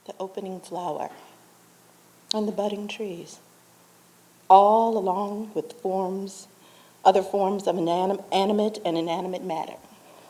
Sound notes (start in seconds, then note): none